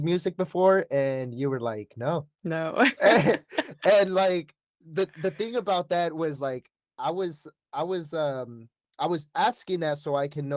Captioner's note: laughter